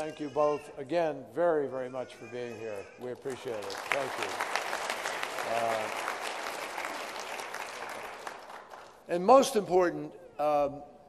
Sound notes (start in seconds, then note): 8.3 applause